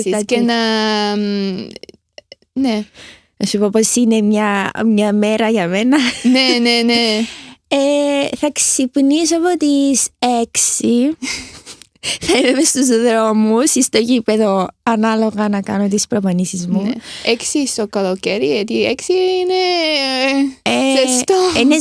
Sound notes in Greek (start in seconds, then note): 9.9 γέλια; 10.5 χαχανίζει